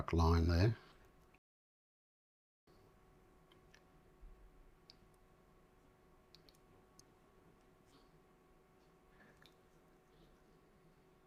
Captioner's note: silence